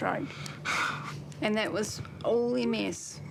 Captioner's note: gasps